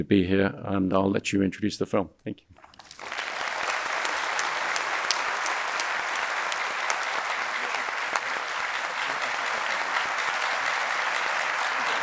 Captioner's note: audience applauding